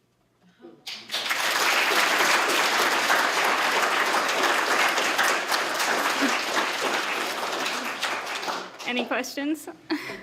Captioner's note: applause